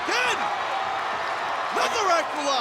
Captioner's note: audience cheering and clapping